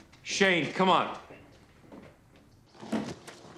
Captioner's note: footstep